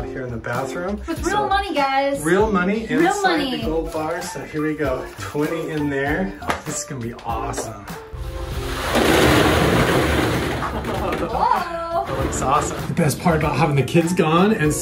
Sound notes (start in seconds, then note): 8.5 balls rustling; 10.7 laughing